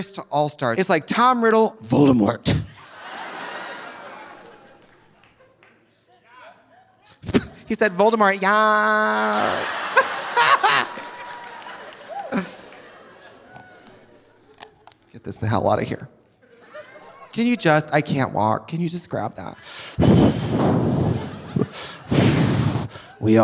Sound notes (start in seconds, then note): 2.8 audience laughing; 7.8 sputters; 8.8 laughs; 11.1 audience laughing; 19.9 Trixie panting